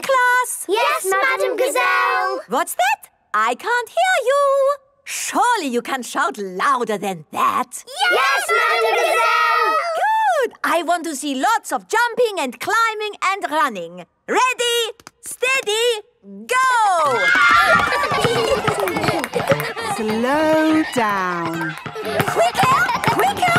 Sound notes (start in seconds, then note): 17.0 kids screaming; 17.9 laughter